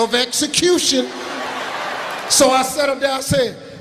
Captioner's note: laughing